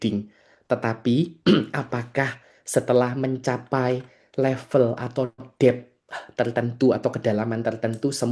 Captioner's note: berdehem